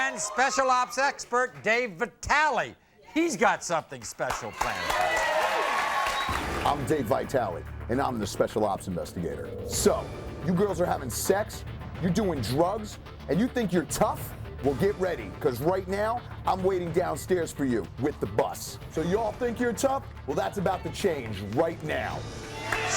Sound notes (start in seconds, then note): 4.2 audience cheers; 22.4 audience cheers